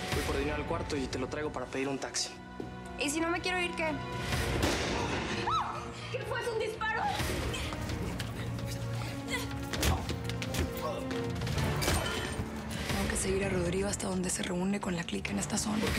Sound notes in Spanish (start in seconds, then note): 4.5 detonación de disparo; 9.4 ruido de golpes